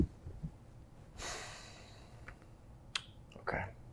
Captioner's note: Bob sighs